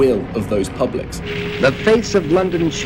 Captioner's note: soundbite of archived recording